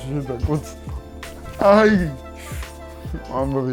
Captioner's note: ayyy!